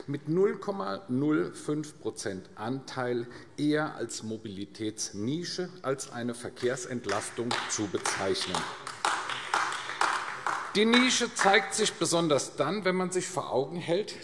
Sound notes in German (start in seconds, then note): 8.7 Beifall AfD